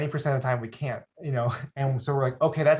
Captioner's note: chuckles